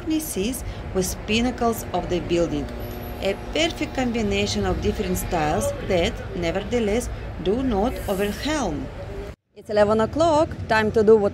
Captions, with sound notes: and the cornices with pinnacles of the building. A perfect combination of different styles that, nevertheless, do not overwhelm.’’ ( Street & Traffic Noise ) ’It’s 11 o’clock ! Time to do what locals do.